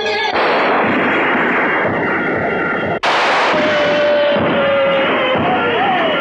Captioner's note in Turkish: Silah sesleri, zeybek havası, naralar